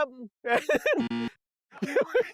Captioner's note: burst into laughter